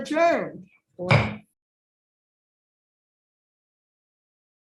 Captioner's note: gavel striking